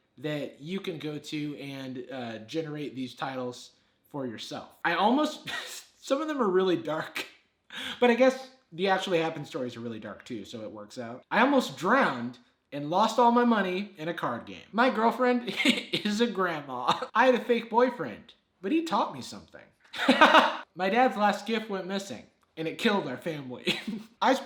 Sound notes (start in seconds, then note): 19.9 laughs